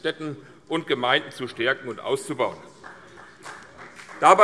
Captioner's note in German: Beifall CDU und BÜNDNIS 90/DIE GRÜNEN